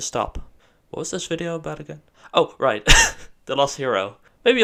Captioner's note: laughs